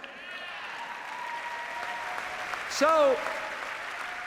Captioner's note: cheers, applause